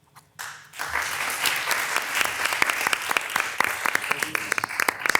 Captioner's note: crowd clapping